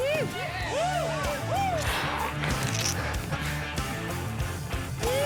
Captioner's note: people cheering